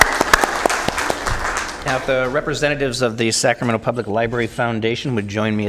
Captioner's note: applause